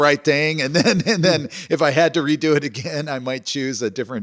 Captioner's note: laughs